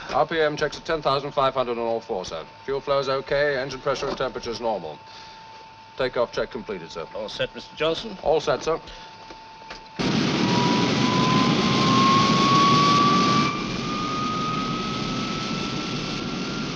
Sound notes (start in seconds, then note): 10.4 plane whirring